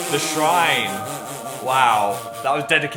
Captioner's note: Dan laughing